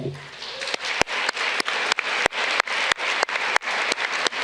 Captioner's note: audience clapping